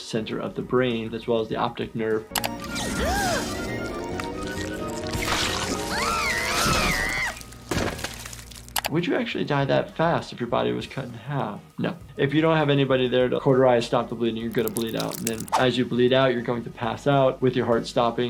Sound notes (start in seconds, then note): 2.3 suspenseful music; 5.8 Sniffles shrieking